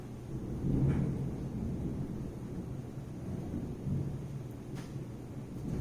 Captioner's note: thunder